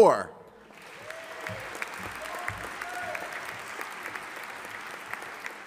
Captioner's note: audience applauding